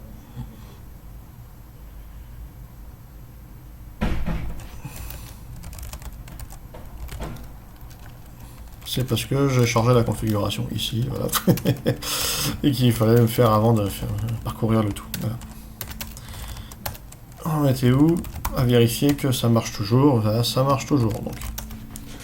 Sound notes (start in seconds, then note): 14.1 laugh